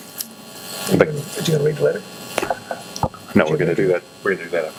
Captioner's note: chattering